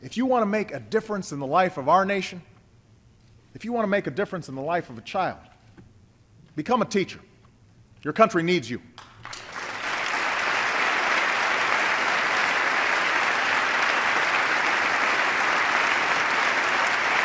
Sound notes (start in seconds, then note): 13.1 applause